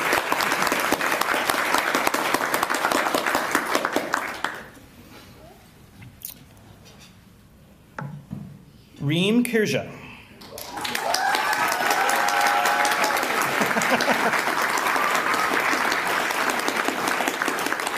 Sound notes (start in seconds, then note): 0.0 applause; 10.4 applause; 13.4 laughter